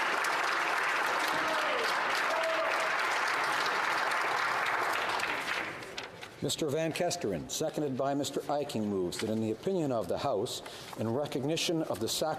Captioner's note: applause